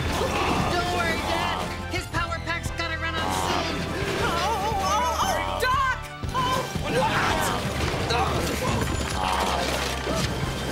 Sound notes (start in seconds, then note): 7.6 yells